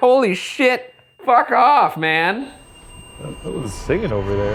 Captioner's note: REM-Pod beeping